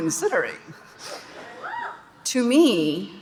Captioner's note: audience laughing and cheering